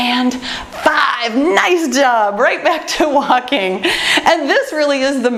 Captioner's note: laughs